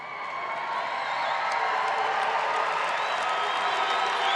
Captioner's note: audience applauding